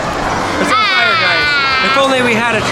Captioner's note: yells